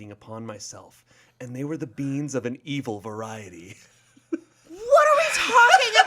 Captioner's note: laughs